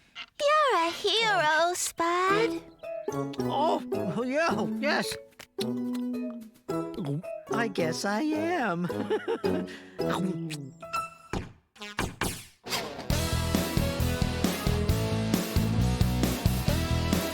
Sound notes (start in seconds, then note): 6.9 chomp, Chomp, Gulp!; 9.9 chomp!